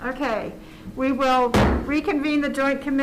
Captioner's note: gavel bangs